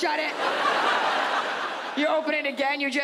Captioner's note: audience laughs